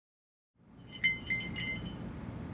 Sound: door jingle

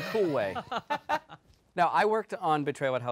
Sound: laughing

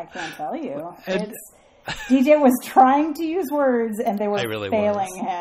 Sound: DJ laughs

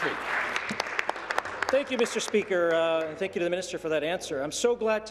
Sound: applause

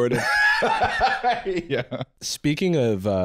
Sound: laughing

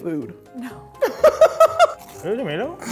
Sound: laughing

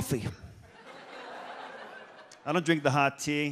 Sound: audience laughs

